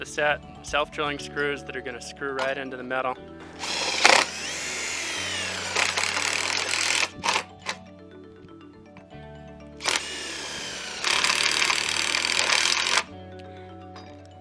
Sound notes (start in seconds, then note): 3.5 drilling noise